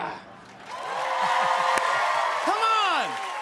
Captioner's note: cheers and applause